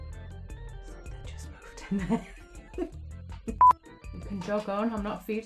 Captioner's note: laughs